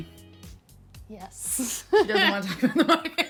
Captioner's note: laughs